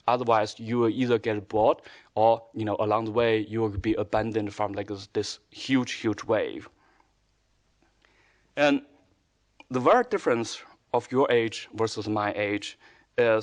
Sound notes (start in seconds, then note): none